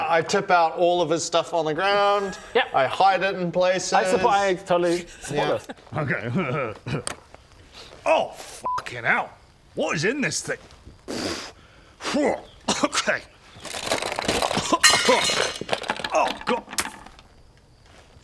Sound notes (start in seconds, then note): 11.0 pffph; 13.5 rattle rattle rattle; 14.7 clang; 16.9 squish